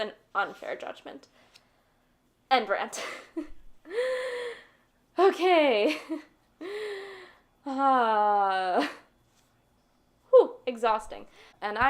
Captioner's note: sighs of relief